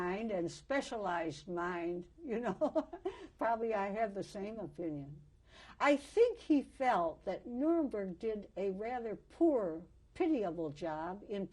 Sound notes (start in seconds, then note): 2.5 laughs